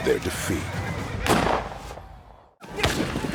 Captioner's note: gunshot